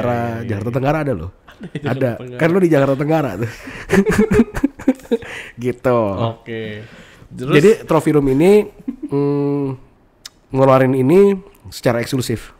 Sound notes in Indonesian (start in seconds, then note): 3.4 ketawa